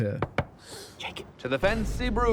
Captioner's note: knock knock